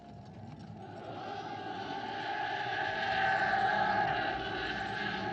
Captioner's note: yelling